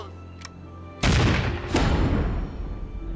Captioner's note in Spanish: Disparo